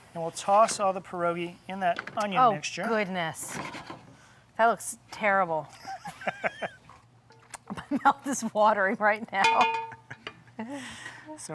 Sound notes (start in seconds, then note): 5.9 laughing; 7.9 laughing